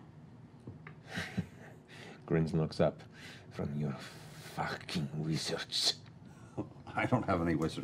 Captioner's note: chuckles darkly